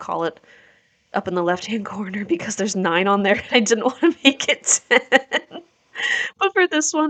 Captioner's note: laughs